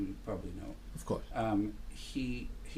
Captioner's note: voiceover